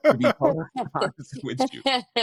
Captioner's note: laughter